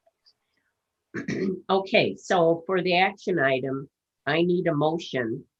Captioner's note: coughs